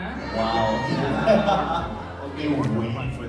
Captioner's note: laughs